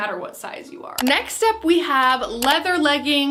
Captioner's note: clicking